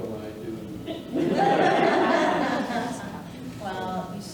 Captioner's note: audience laughing